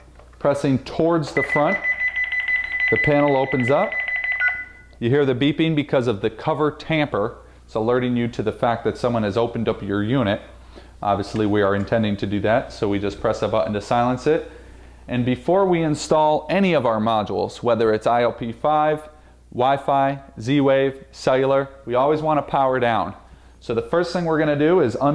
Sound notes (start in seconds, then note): 4.8 beeping